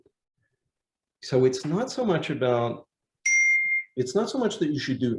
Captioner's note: computer dings